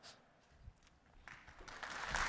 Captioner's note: applause